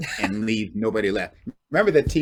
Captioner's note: chuckles